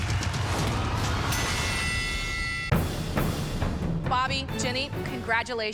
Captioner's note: bell dings